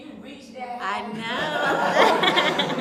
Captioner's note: laughter